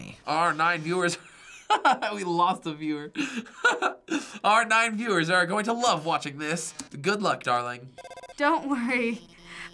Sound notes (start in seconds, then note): 1.3 laughing; 7.9 phone ringing